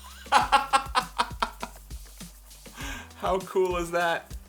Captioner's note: laughter